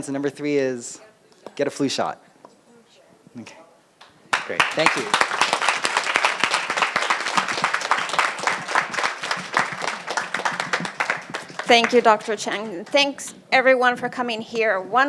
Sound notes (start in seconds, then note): 6.0 applause